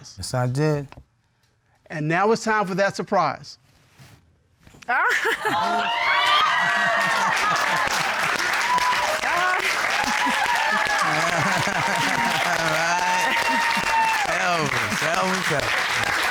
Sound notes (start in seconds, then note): 4.8 cheers and applause; 9.9 laughs; 10.0 laughter